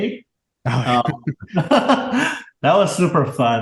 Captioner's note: both laugh